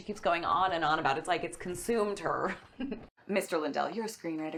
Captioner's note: laughs